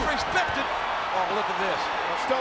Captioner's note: audience cheers